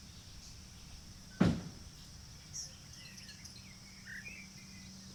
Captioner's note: car door closing